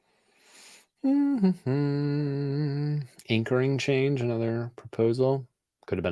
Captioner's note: hums